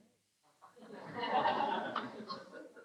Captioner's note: laughter